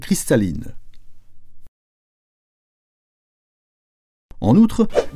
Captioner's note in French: aucun son